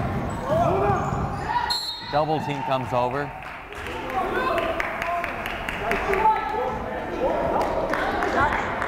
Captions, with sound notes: (whistle blows) Double team comes over.